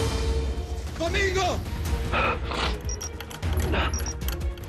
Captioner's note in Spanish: Sonido del motor